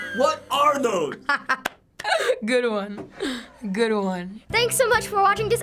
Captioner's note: laughs